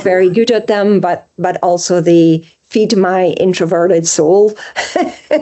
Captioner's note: laughs